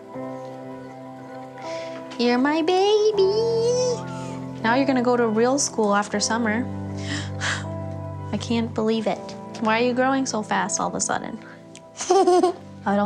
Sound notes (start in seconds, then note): 7.0 sighing; 12.0 giggling